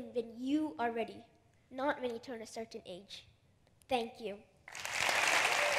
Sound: laughter/applause

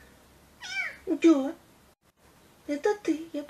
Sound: kitten meows

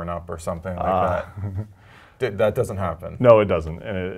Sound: laugh

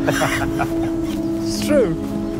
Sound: laughing

